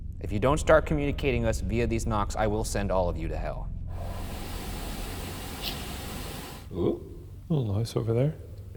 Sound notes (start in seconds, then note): 5.6 object clicks